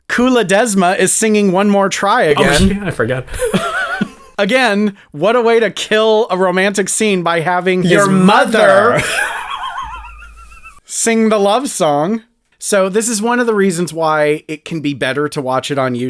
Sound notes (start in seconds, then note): 7.8 laugh